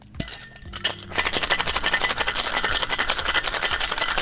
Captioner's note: thuds; ice clinking